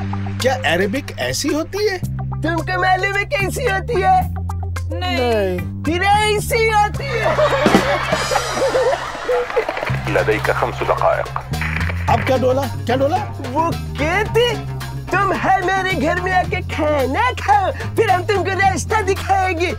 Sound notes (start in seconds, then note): 9.3 Arabic